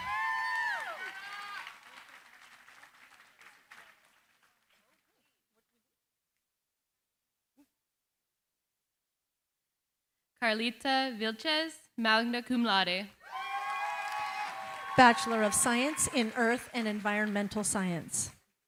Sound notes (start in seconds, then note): 0.0 cheering, applause; 13.2 cheering, applause